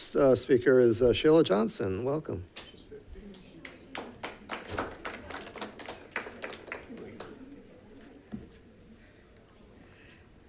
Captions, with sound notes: The first speaker is Sheila Johnson. Welcome. (attendees applauding)